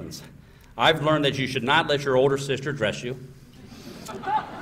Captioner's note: laughter